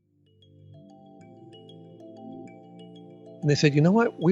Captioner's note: blissful chime